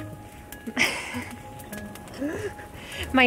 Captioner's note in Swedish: Skratt